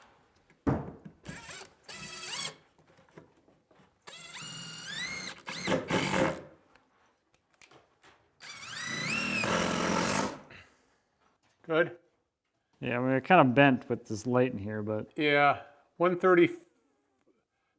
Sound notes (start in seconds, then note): 1.8 drilling sounds